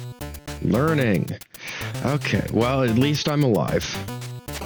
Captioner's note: sigh